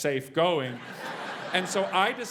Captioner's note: laugh